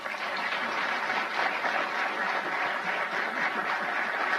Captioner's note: applause